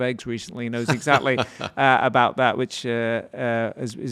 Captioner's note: laughs